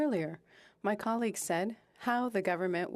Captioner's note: speaking French